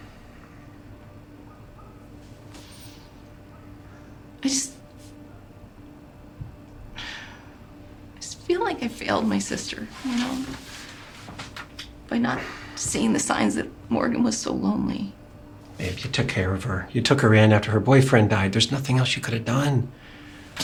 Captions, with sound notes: I just, (sighing) I just feel like I failed my sister, you know? By not seeing the signs that Morgan was so lonely. - Babe, you took care of her. You took her in after her boyfriend died. There's nothing else you could've done.